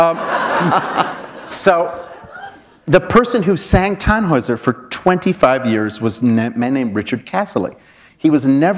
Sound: chuckle

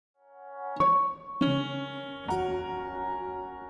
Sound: gentle chiming

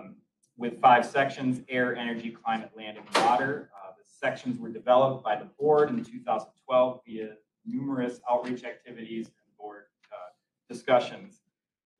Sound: door opens

